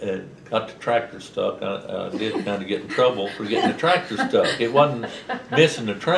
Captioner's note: laughter